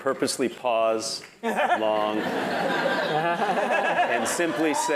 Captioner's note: laugh